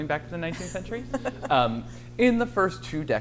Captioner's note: laughs